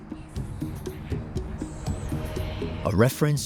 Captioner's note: eerie whispering